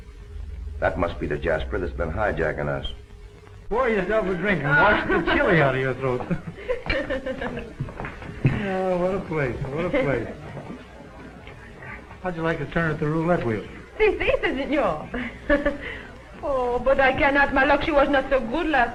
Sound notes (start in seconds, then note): 6.1 laughter